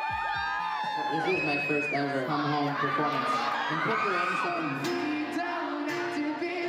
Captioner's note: cheers and Applause